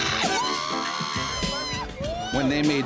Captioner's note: cheering